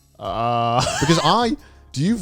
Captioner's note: laughs